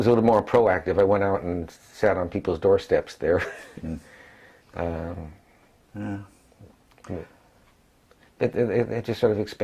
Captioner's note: laugh